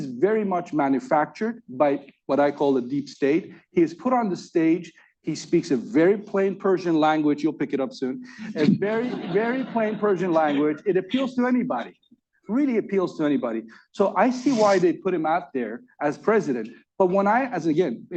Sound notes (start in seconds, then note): 8.4 laughter